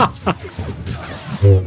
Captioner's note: laughter